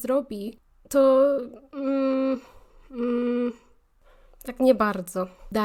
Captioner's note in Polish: powątpiewające jęki